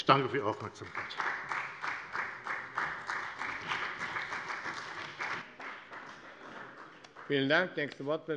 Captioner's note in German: Beifall bei der FDP und bei Abgeordneten der CDU